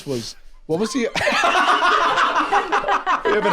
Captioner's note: all laughing